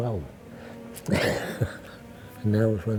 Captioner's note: chuckles